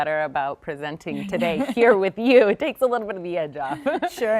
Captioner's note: laughing